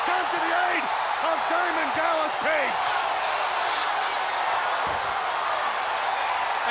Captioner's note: audience cheering